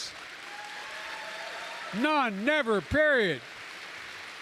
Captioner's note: applause